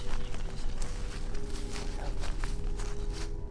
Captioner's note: whispers